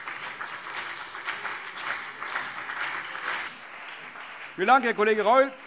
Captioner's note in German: Beifall CDU und BÜNDNIS 90/DIE GRÜNEN